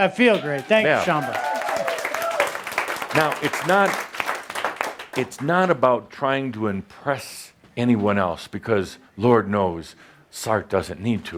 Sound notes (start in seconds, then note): 4.4 applause